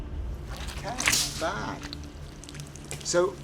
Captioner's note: gelatin squelching